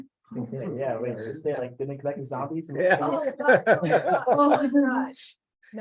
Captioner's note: laughing